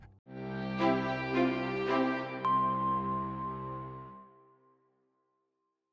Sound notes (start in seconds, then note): 2.4 chime